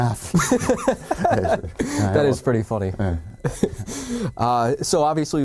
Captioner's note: laughing